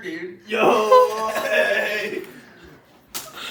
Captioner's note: manly bonding noises